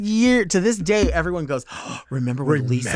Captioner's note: gasps